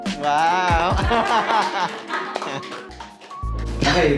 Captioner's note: laughing